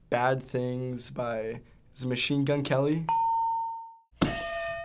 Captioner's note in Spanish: ding